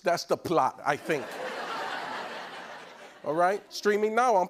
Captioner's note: laughter